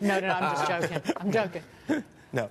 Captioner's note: laughter